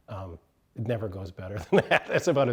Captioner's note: laughs